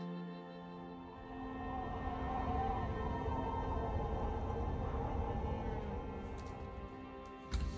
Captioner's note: soothing music; wind howling